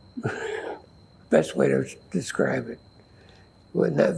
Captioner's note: sighing